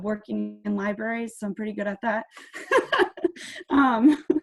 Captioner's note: laughs